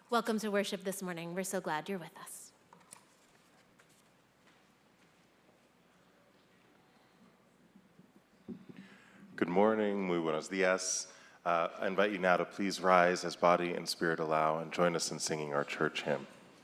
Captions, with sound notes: - Welcome to worship this morning. We're so glad you're with us. - Good morning, (speaking in foreign language). I invite you now to please rise as body and spirit allow and join us in singing our church hymn.